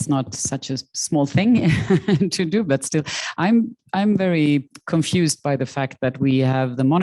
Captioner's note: chuckling